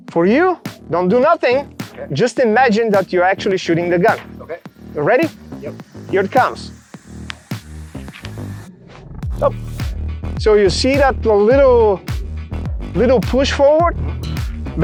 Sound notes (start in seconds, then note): 7.2 hand whooshes; 7.5 hand tapping